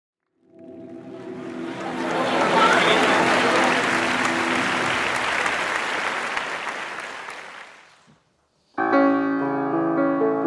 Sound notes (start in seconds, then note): 0.4 drone sound, musical chord; 0.7 applause